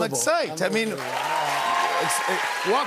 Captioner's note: cheers and applause